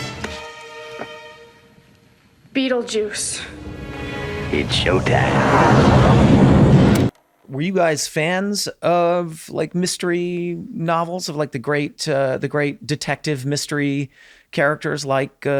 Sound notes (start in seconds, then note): 6.4 thunder